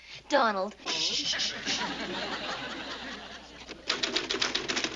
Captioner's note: shushing